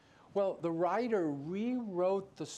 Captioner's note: none